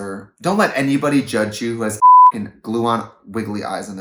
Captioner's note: beep